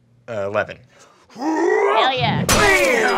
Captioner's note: smashing